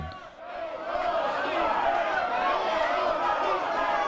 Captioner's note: crowd chanting